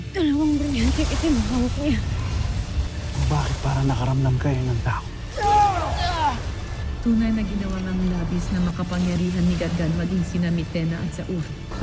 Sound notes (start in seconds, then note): 0.3 evil energy whoosh & crackle; 5.4 growls & grunts; 6.0 powerful blast-crackle